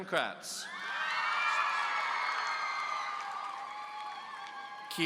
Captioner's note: audience cheering